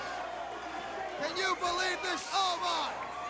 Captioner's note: crowd chatter